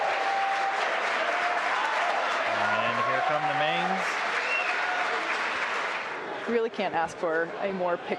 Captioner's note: cheers and applause